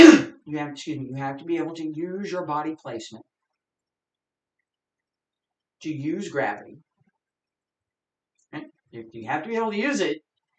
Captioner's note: coughs